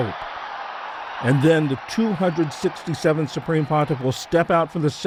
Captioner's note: cheering